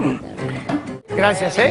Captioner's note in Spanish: Carraspea